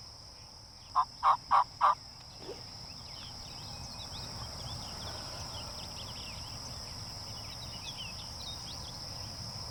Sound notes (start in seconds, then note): 0.9 turkey calls; 2.0 insects chirp; 2.3 birds chirp